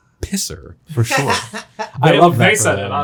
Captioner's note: laughing